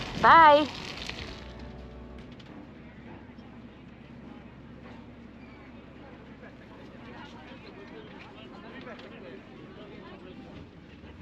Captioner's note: people talking